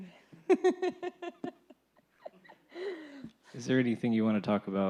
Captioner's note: laughs